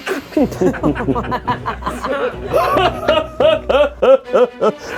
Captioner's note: laughing dramatically